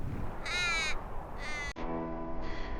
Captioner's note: bird squawks; ominous music